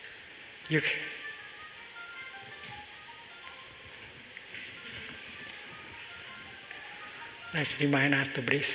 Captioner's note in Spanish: Suena un celular varias veces